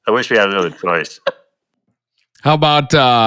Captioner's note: laughing